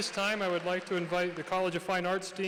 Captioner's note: applause